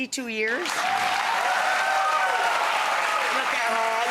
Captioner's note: audience applauds